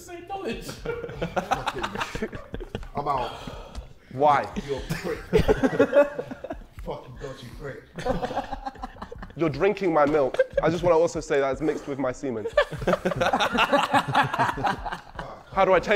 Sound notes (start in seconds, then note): 0.5 Sidemen laughing; 8.3 Sidemen laughing; 12.2 Sidemen laughing